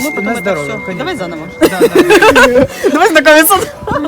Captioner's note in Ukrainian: сміх